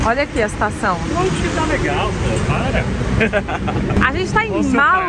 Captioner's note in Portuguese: risos